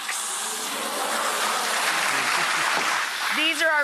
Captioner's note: audience claps